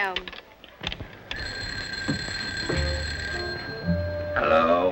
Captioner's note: phone rings; humorous music